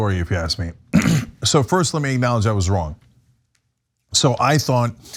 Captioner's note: cough